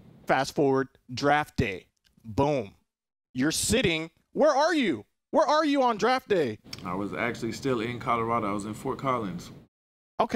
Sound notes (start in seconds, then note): none